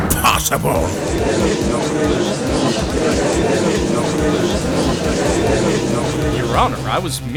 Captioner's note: gallery chattering